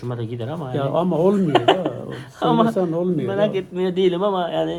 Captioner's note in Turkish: kahkaha